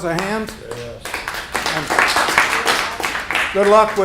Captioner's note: applause